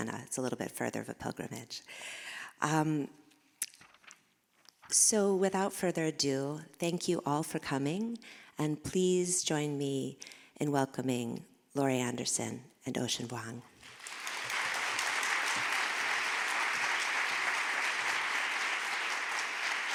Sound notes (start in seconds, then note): 13.8 audience applauding